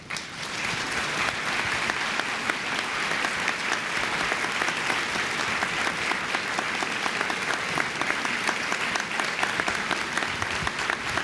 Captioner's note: applause